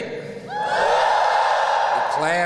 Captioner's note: whoop!